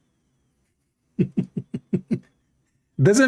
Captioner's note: Ketawa